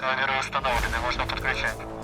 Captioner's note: none